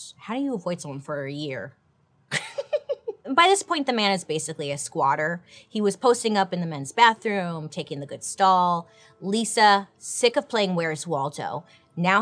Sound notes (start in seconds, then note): 2.3 giggles